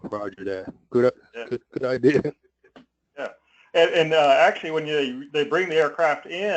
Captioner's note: laugh